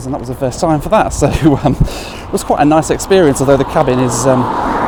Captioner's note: chuckles